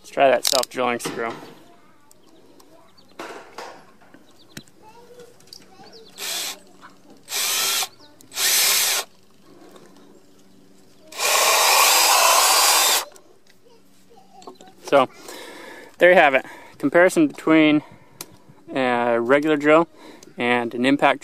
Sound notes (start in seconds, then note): 7.9 loud whirling